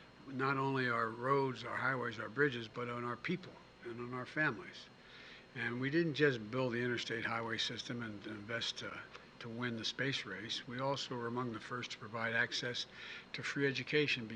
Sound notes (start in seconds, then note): none